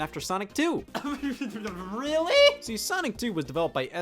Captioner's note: stuttering